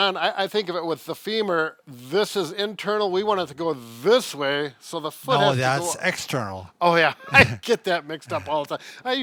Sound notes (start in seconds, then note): 7.3 laughs